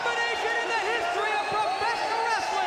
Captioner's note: crowd cheering